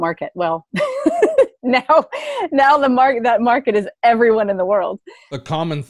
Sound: chuckles

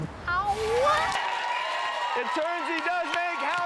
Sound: applause

